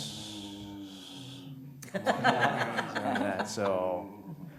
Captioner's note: laughter